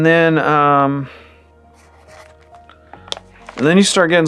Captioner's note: marker writing